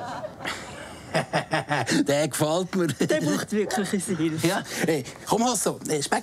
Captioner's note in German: Lachend